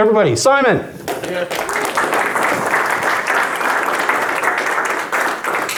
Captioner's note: audience applauding